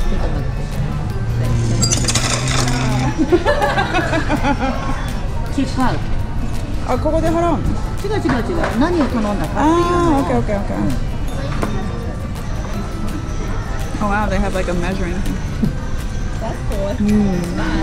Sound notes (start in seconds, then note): 1.6 chopsticks fall all over the table